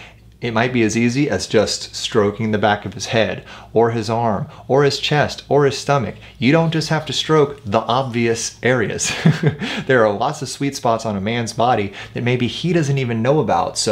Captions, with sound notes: it might be as easy as just stroking the back of his head or his arm or his chest or his stomach. You don't just have to stroke the obvious areas, [chuckles] there are lots of sweet spots on a man's body that maybe he doesn't even know about.